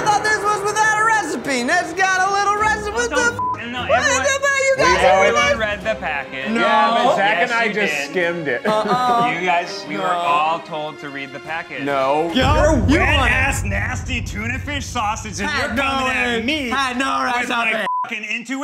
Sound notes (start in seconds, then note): 3.3 beep; 3.7 everyone yells; 17.8 beep